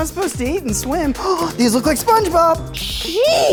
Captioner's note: gasps